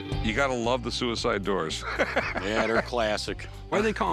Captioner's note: laughs